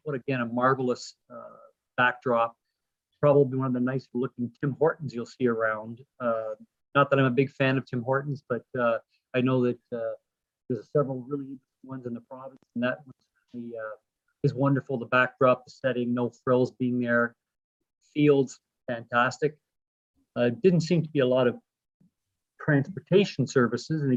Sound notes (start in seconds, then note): 12.2 voice distorts